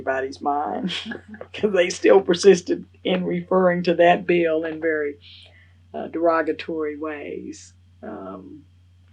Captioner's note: laughs